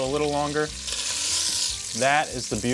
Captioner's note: chicken sizzling in pan